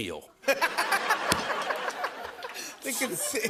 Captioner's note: laughter